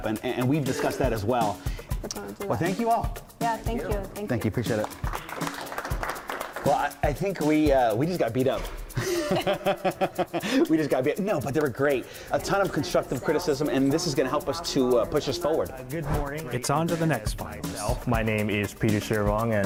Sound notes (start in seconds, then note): 8.9 laughs